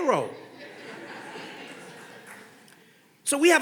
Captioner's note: audience laughing